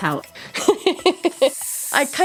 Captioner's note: laughs